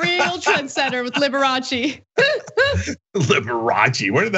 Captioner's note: laugh